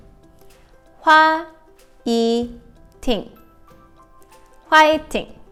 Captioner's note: ting